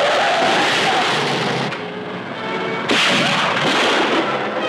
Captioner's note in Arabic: تحطم سيارة